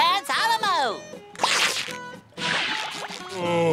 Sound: tearing

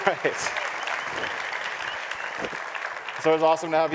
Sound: applause

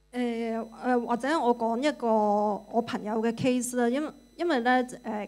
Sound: Cantonese

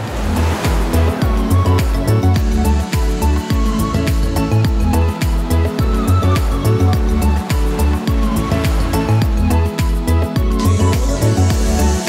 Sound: sound of waves

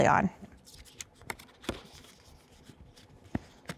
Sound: paper rustling

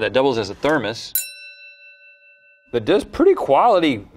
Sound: bell dings

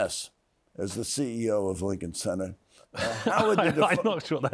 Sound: laughs

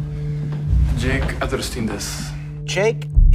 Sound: speaking in japanese

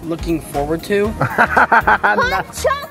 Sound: laughs

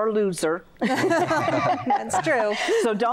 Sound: laughter

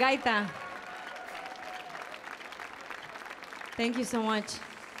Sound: audience applauding

